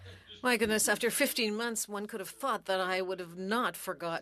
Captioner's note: speaking French